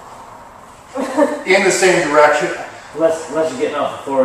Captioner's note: chuckle